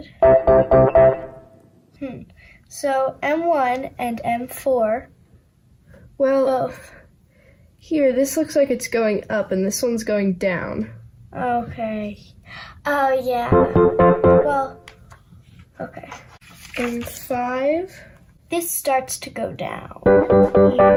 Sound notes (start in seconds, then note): 0.0 bouncy upbeat music; 13.5 bouncy upbeat music; 16.1 papers rustling; 20.0 bouncy upbeat music